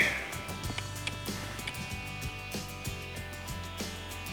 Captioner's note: clicking